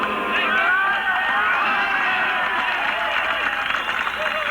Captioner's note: crowd cheers